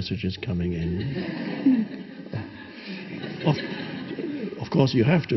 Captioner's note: audience laughs